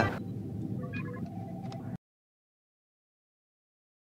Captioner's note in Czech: elektronické pípání